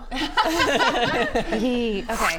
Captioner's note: laughs